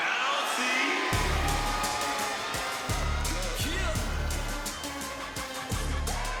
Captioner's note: crowd cheering; upbeat music